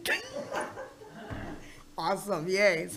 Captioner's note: board members laugh